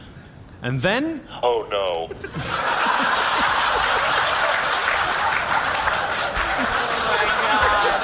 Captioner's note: audience laughs